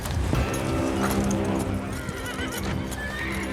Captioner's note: horses neighing